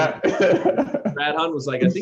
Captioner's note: laughter